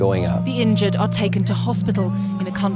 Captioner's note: voiceover